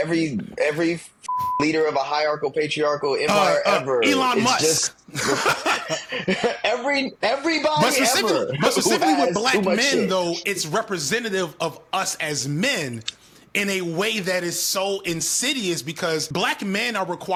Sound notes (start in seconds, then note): 1.2 beep; 6.0 laughing